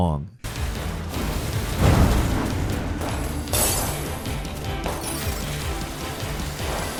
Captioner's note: rousing dramatic music; weapons clanging